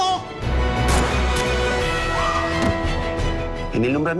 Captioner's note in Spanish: Disparo